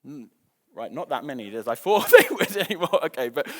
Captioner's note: chuckles